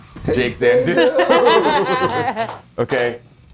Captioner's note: laugh